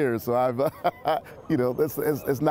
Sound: laughter

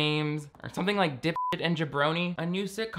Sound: beep

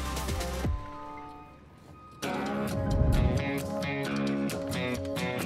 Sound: vehicle beeping

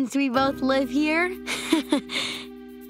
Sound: chuckles

